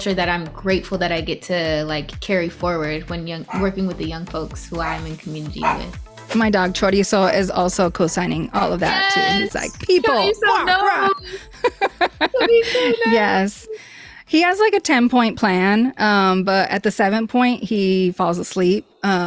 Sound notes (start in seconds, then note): 5.6 Chorizo barking; 5.6 Chorizo keeps barking; 10.3 imitates dog barking